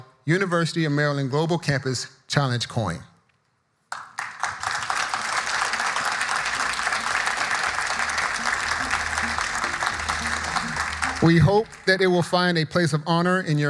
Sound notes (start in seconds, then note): 3.9 audience applauding; 5.0 subdued music